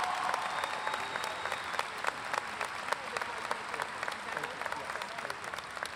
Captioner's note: audience clapping and cheering